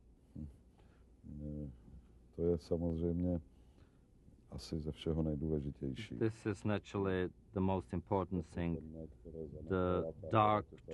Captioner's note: through translator